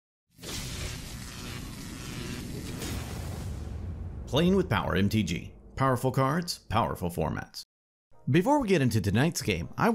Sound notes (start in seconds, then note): 0.4 electricity Buzzing